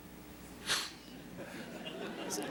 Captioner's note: laughter